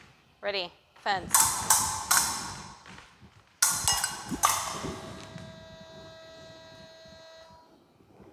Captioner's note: clicking